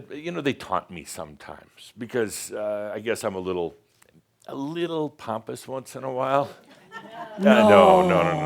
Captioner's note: some chuckles